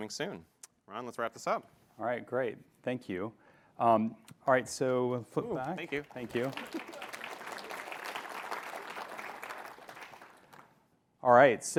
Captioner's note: applause